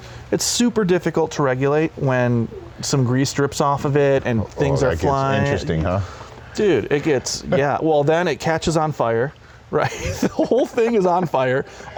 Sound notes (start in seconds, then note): 9.3 laughs